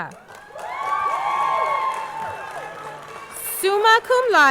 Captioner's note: audience clapping; audience cheering